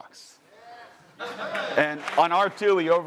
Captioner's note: audience cheering